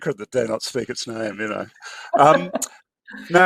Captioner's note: laughs